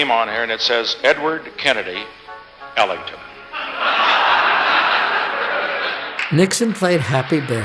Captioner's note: crowd laughs